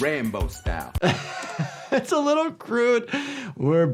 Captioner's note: laughs